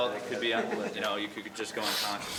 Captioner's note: trainee laughs